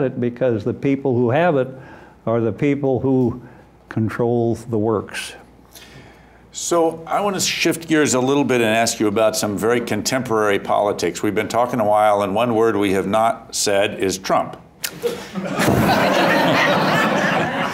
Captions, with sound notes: because the people who have it are the people who controls the works. - So I wanna shift gears a little bit and ask you about some very contemporary politics. We've been talkin' a while, and one word we have not said is "Trump." (laughter)